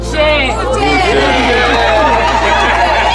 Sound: crowd; crowd cheering

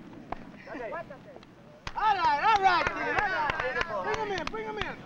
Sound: cheering

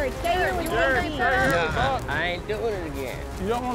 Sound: overlapping chatter

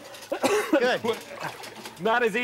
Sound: coughing

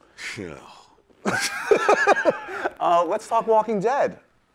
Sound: laughs

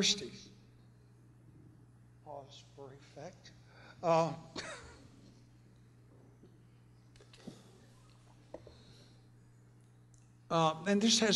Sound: pause

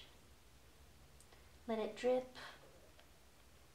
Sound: bleach dripping

